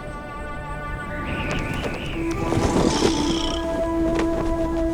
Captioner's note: wind whistling